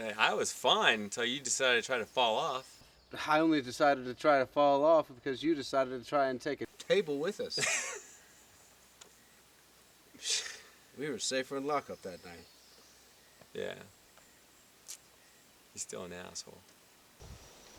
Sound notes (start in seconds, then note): 7.3 laughing